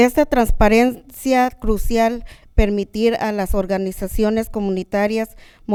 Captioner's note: speaking in a foreign language